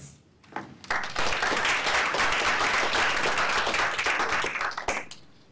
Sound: applause

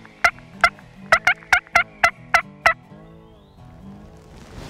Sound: bird call

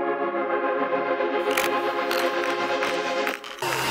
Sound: cameras taking pictures

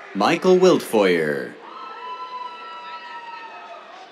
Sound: cheers

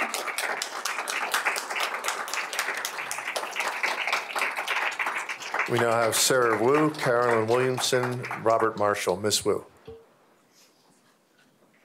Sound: applause

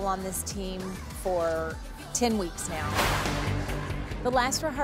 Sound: whoosh

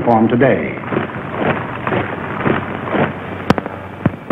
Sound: boots stomping

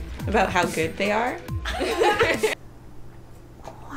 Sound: laughter

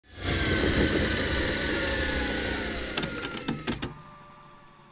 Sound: tape machine whirring

